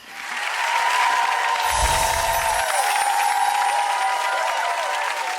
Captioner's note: audience applauding